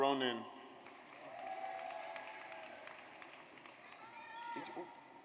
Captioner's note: audience applauds